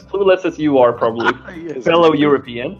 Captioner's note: laughing